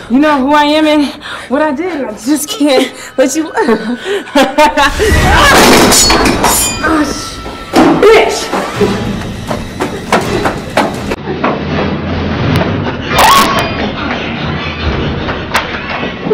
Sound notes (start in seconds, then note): 4.4 laughs; 5.1 Ciara groans